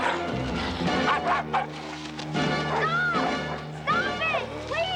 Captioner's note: barking